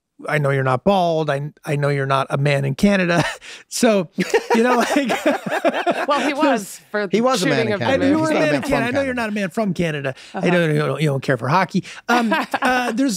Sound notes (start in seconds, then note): 4.1 Glenn laughs; 12.1 laughs